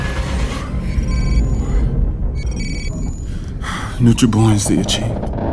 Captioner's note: system beeping